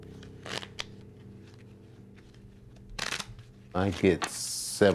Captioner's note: cards fluttering